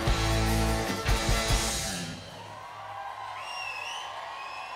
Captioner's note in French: cris d'enthousiasme